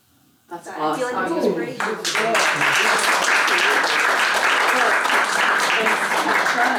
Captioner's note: applause